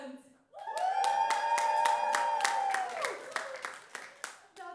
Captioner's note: more cheers